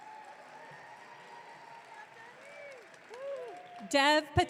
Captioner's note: audience cheering